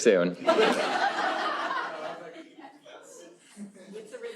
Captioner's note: laughter